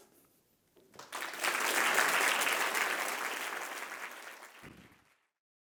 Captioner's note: audience clapping